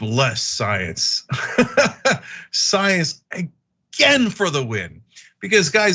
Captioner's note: laugh